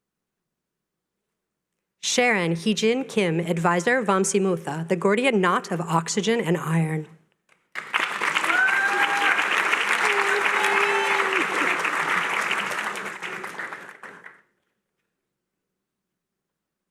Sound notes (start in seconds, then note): 9.3 cheering